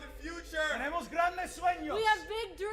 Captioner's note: speaking Spanish